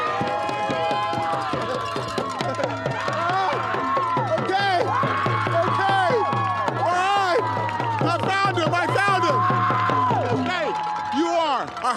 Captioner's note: cheering